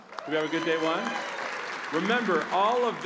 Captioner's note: applause